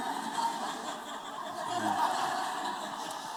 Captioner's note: laughter